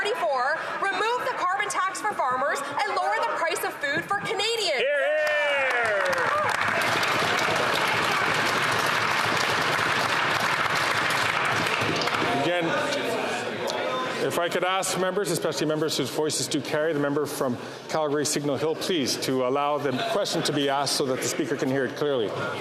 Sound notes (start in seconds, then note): 9.1 some Applause